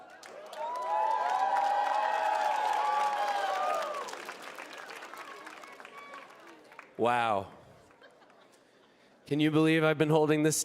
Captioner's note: applause